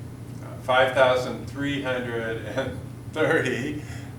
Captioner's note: chuckles